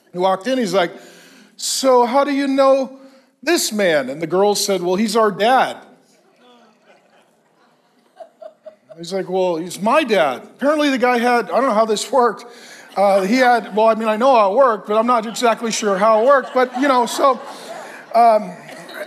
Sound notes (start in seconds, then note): 6.1 congregation laughs; 16.6 congregation laughs